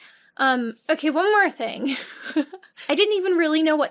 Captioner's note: laughs